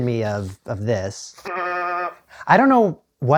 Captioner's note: toy sound